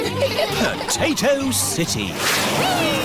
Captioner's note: all giggling